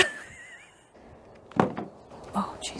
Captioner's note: phone falls